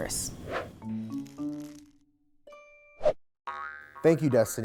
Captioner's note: air whooshing